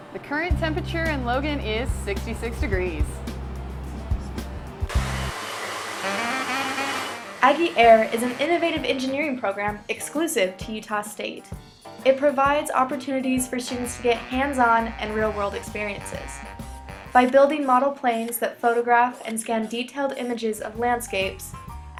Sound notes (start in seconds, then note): 4.6 propeller spinning